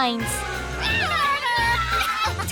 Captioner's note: giggling